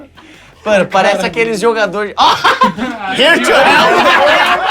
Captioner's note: risos